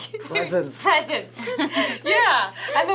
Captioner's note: laughs